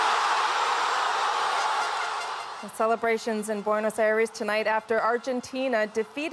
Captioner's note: cheers and Applause